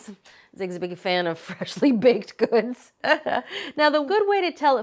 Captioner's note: chuckling